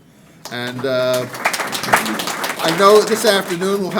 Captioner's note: audience applauding